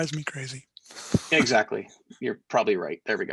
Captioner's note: chuckling